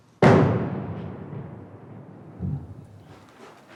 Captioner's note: explosion bangs